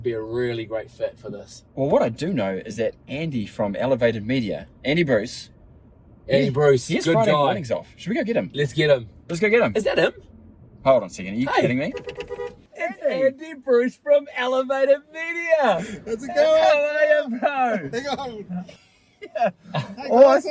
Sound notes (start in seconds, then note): 11.4 horn honks; 17.2 group laughs